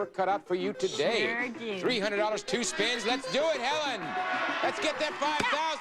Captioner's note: audience applauding